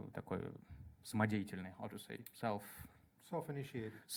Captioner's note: speaks in Russian